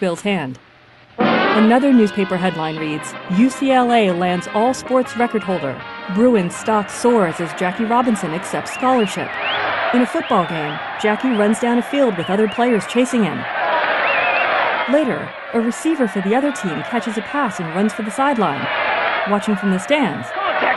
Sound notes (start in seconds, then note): 6.0 fan whistling; 6.1 crowd cheering; 8.9 cheering continues